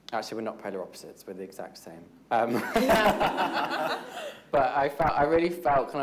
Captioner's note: all laughing